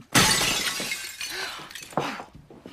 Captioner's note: gasps